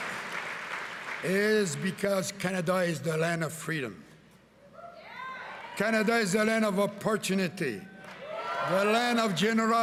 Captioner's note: cheering and Applause